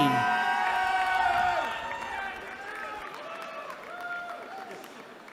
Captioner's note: cheering